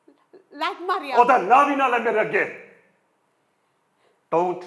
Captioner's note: in Punjabi